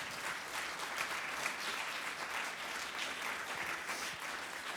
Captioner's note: audience applauds